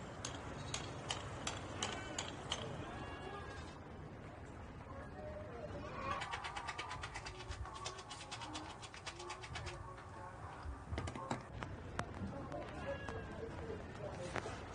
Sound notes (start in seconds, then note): 0.1 goats bleating; 6.2 swishing